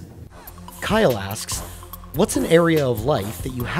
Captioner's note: voiceover